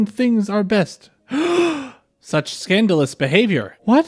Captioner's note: gasp!